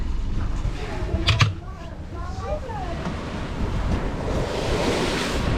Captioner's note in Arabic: غمغمة الخلفية; تحطم المياه